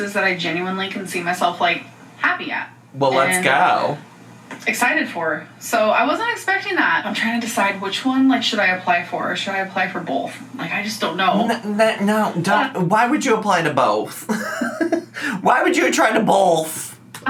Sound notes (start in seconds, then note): 14.0 laughs